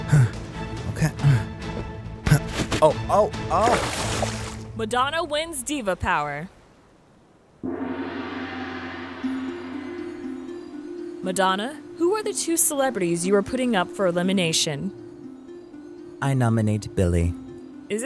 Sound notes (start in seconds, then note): 0.1 Mariah grunting; 3.4 water splashes; 7.6 gong crashes; 9.3 gentle music